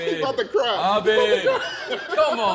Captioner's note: laughs